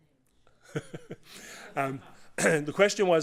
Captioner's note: laughter